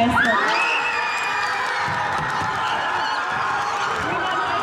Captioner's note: cheering